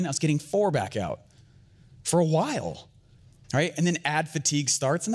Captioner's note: none